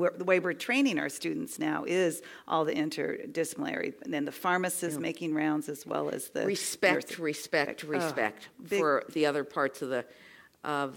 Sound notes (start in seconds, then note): none